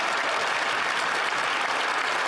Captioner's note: applause